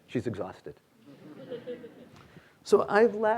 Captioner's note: students laughing